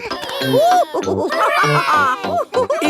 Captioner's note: children straining; giggles; madam gazelle laughing